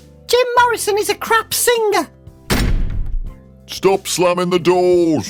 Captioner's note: slam sdoor